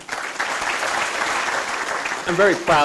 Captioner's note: audience applauding